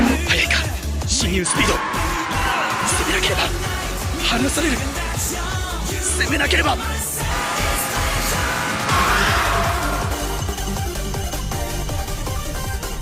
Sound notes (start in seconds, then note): 7.8 bruuuuuuuuuuuuuh